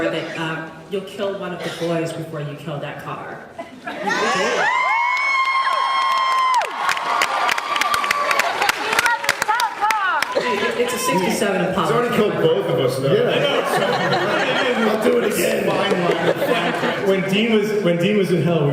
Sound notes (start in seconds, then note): 4.0 cheers